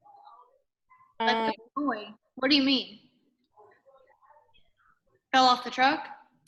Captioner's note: voice fades